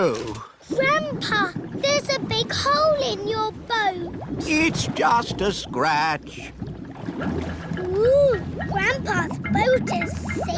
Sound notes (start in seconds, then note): none